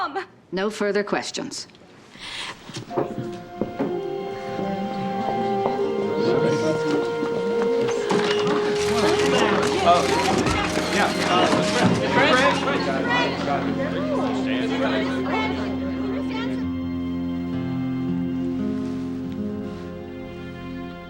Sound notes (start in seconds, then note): 2.1 inhales sharply; 5.7 people murmuring; 7.9 cameras clicking